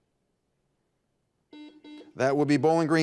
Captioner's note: buzzer buzzes